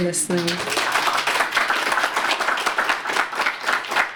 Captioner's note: applause